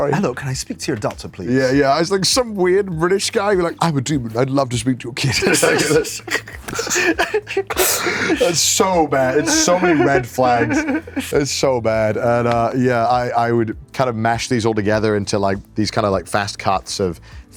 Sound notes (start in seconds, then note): 5.3 both laugh